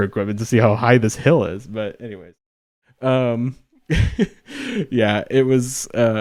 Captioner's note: laughs